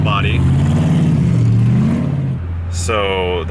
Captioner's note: truck engine roaring